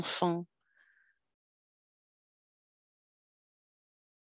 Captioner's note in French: silence